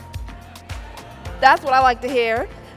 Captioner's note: crowd